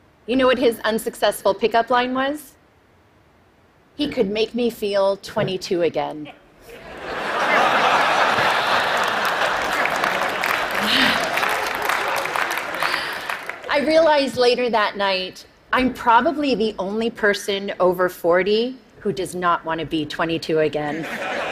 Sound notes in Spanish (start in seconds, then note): 6.6 Risas; 7.5 Aplausos